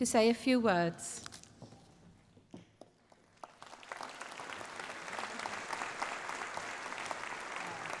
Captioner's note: applause